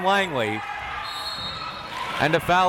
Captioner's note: whistle tweeting